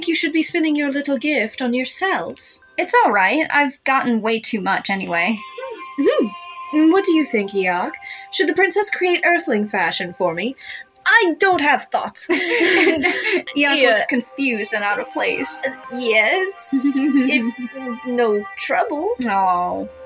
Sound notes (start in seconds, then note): 12.3 both Laugh